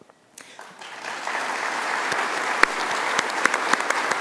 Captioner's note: audience applauding